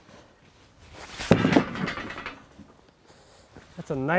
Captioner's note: wood thuds